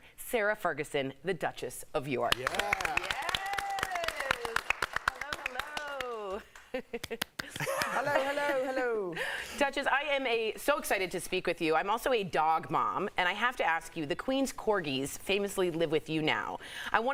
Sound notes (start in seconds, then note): 6.1 applause